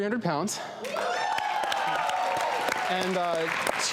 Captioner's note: audience clapping and cheering